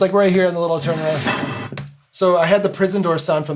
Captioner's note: metal bars clanging